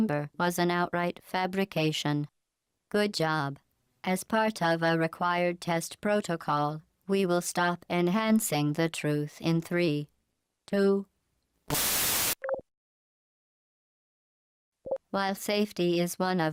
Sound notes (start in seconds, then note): 11.7 bzzzzzt